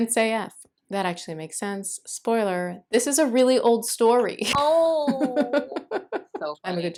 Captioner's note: laughter